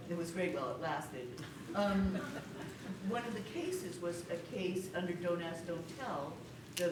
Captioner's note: laughter